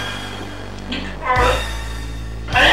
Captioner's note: grunt